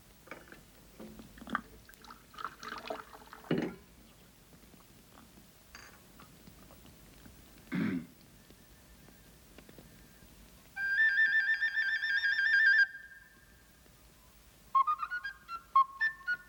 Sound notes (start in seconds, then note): 7.7 clears throat softly; 10.8 plays flute; 14.8 plays sprightly tune